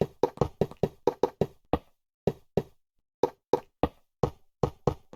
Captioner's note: silence